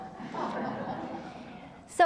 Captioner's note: laughter